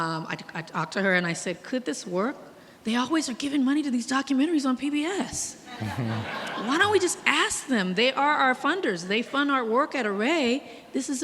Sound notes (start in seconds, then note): 5.7 audience laughing